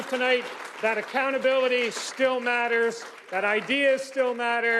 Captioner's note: applause